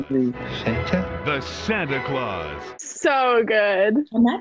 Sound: voice-over

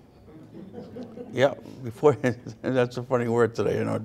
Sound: audience laughs

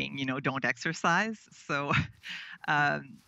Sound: chuckles

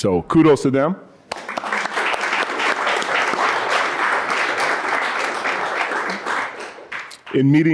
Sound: applause

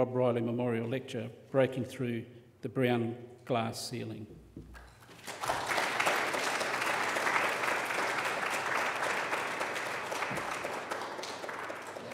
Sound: applause

